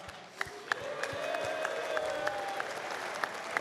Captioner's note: cheers